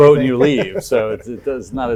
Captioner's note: laughs